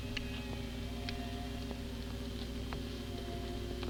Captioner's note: machinery humming